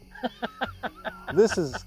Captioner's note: laughs